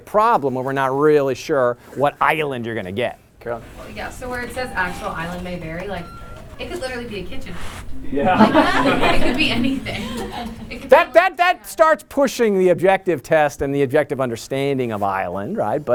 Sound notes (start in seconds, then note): 8.2 laughter